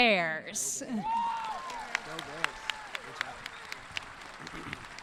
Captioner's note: audience cheering